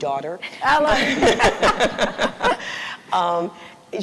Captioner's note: laughter